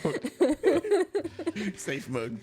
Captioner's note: laughter